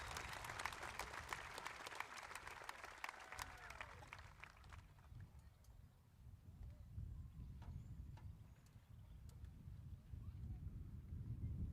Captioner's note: cheers and applause